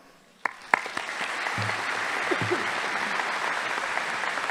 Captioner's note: audience applauding